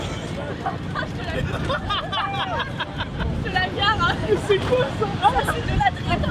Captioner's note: laughters